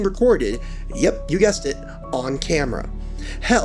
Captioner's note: gasp